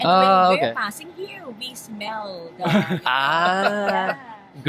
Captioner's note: laugh